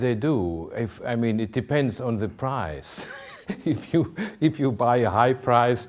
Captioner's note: laughing